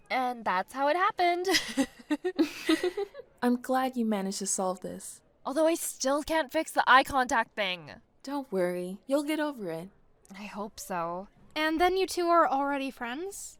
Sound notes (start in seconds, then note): 1.4 amanda and chloe giggles